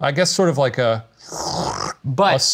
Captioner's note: slurping